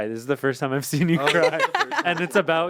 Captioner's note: laughs